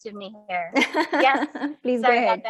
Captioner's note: chuckles